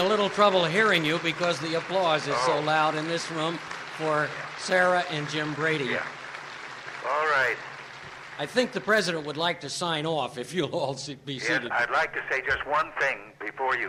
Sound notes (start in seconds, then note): 0.0 applause